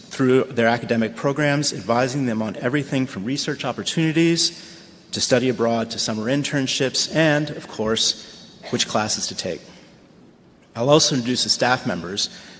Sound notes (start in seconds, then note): none